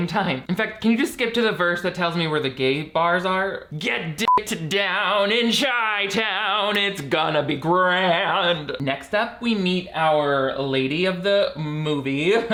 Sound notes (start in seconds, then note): 4.2 beeps